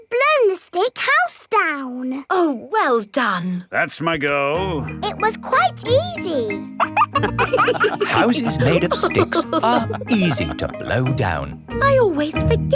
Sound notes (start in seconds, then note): 6.7 wolves laughing